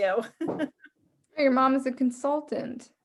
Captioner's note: laughing